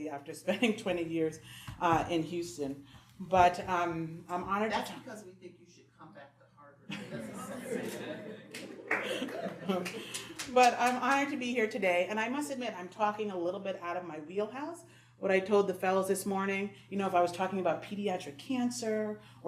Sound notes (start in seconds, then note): 8.5 audience cheering